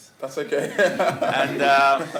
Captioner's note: laughter